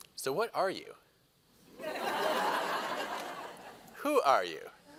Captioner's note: laughter